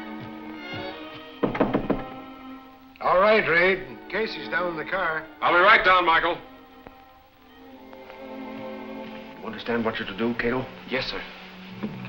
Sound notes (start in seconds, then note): 1.4 knocking